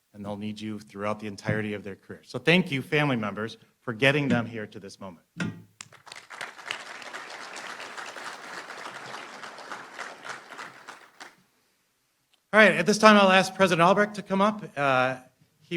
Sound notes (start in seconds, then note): 5.8 applause